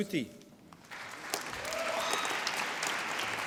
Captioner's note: applause